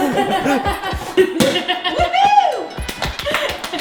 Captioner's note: champagne bottle pops